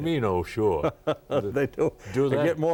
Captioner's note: laughing